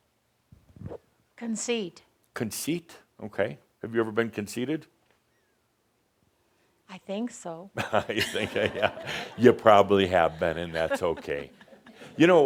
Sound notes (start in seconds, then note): 7.8 some chuckles